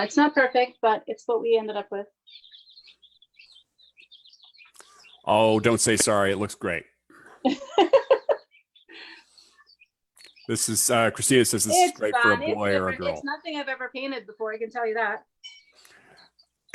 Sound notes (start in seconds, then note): 7.2 laughs